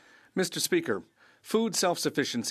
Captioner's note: speaking French